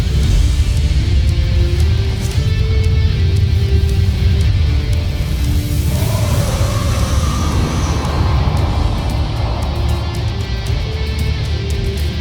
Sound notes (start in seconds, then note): 5.2 echoing screech